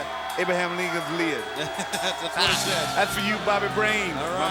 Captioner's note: laughs